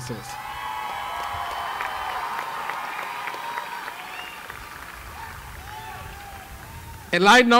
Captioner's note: cheering